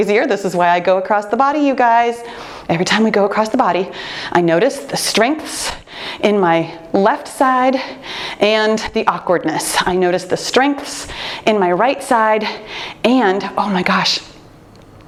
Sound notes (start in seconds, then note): none